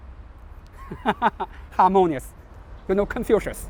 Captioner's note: laughs